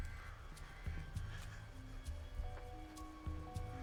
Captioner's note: none